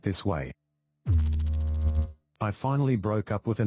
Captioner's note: electrical noise